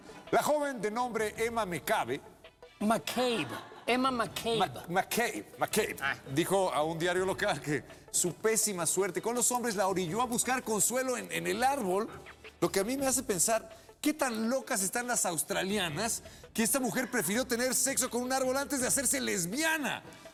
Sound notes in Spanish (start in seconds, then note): 3.1 risas